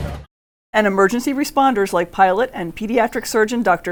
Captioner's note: voiceover